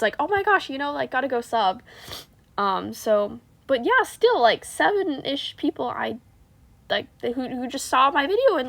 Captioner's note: sniffff